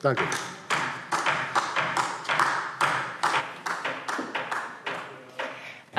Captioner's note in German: Beifall DIE LINKE